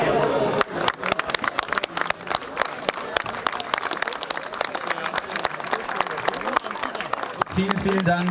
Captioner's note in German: Applaus